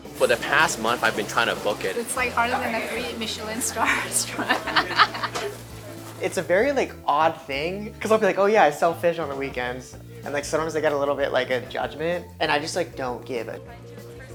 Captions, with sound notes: “For the past month, I’ve been trying to book it.” “It’s like harder than a three Michelin star restaurant. [LAUGHS]:” “It’s a very, like, odd thing because I’ll be like, oh yeah, I sell fish on the weekends. And sometimes I get a little bit of judgment. And I just like don’t give a --